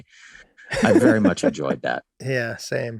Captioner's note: Rob laughing amusingly